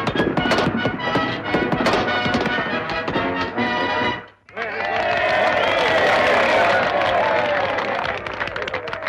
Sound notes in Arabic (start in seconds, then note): 4.4 هتافات الجمهور